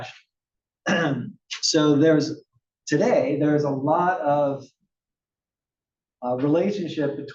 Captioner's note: cough